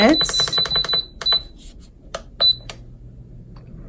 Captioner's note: lid beeping